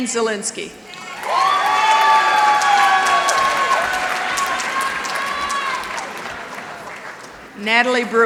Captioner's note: applause